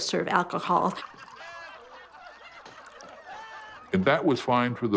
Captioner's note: men laughing